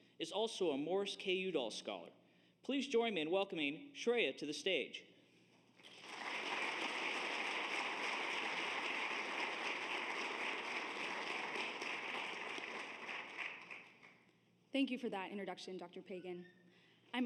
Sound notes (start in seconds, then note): 5.8 audience applauds